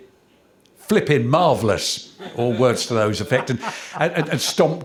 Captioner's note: laughter